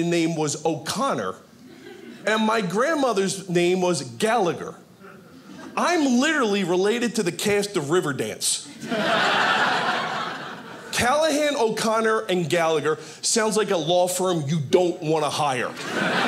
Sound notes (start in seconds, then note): 8.7 audience laughing; 15.6 audience laughing